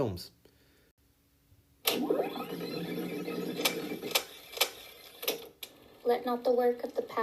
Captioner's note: projector whirring sound